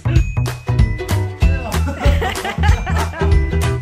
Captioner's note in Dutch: Lachen